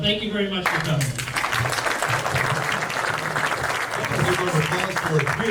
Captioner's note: audience claps